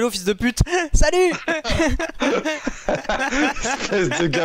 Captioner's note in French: rire